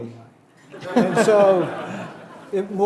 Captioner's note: audience laughing